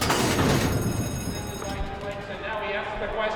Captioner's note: bell ringing